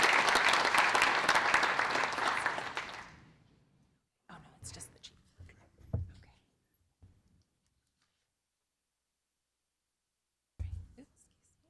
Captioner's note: applause